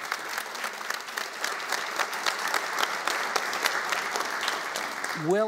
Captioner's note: applauding